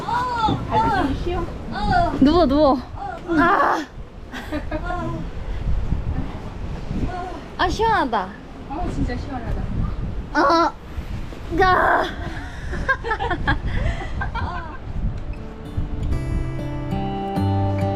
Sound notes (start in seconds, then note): 10.5 strange moaning